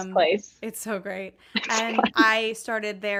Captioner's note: laughs